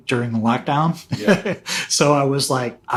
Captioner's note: laughing